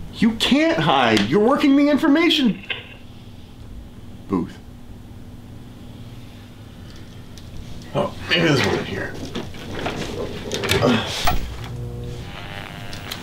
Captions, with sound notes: You can't hide, you're working the information... (intercom clicks off) ...booth. Oh, maybe there's one in here. (static noise)